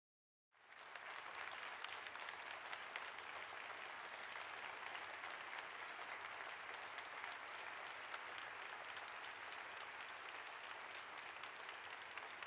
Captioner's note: applause